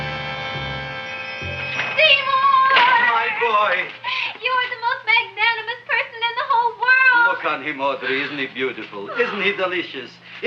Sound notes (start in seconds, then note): 0.6 shop bell chimes